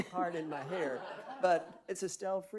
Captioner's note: audience laughing